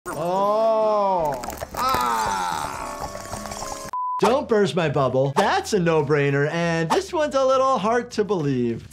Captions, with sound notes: - Oh, ah. (gum squishing) (tone beeps) Don't burst my bubble, that's a no-brainer, and this one's a little heart to believe.